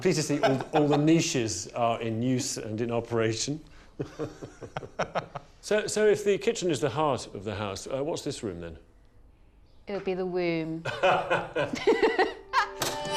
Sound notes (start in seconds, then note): 3.9 laughing; 10.8 aide laughing; 10.8 laughing